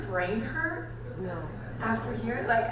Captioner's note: voiceover